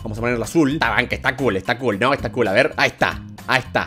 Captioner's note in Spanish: voz rara